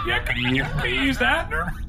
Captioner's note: laughter